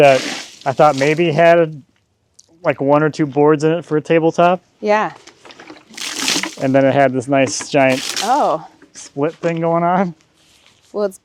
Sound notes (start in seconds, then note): 5.2 liquid splashing